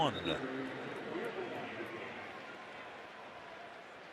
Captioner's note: pa announcement